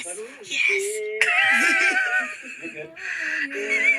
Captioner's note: cast laughing